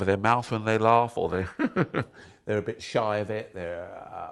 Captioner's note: giggles quickly